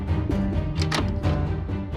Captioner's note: door opening